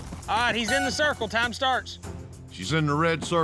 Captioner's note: horn blows